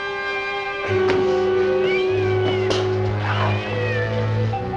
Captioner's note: cat Meowing